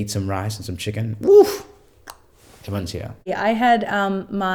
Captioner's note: clucks tongue